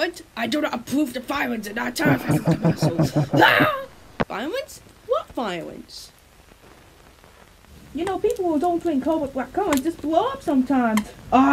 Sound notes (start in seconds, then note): 3.3 screams